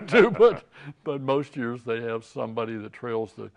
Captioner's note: laughing